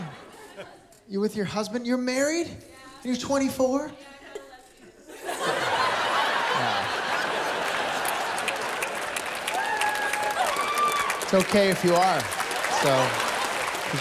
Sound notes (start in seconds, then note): 4.9 laughter; 7.6 laughter, cheering; 13.0 laughter